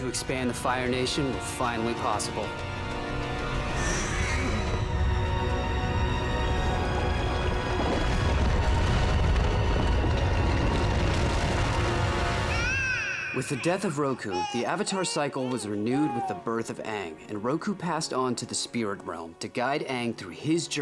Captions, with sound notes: of the Fire Nation were possible. [coughing] [baby crying] With the death of Roku, the Avatar cycle was renewed with the birth of Aang and Roku passed on to the Spirit Realm to guide Aang through his journey